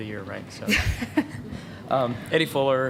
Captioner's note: laughter